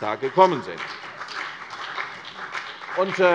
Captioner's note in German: Beifall CDU und BÜNDNIS 90/DIE GRÜNEN